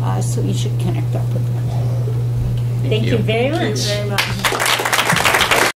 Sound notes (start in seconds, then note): 4.1 applause